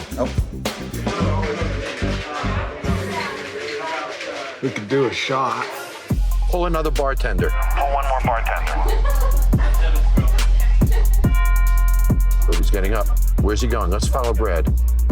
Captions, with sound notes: OK. [CHATTER] We could do a shot. Pull another bartender. Pull one more bartender. [CHATTER] Oh, he's getting up. Where's he going? Let's follow Brad.